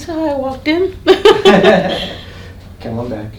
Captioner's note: laughter